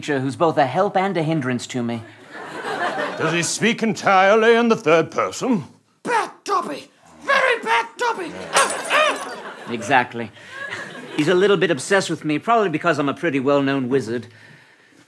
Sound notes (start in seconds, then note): 8.4 glass breaks